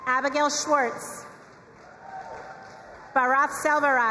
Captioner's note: crowd cheering and applauding